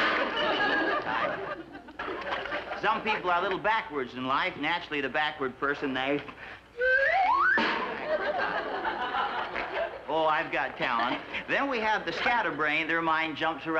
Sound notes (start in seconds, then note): 6.8 whistle